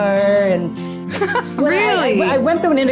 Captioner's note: laughs